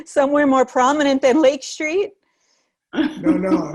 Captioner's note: laughter